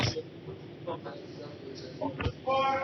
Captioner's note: indistinct chatter